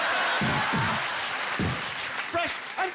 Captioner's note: beat boxing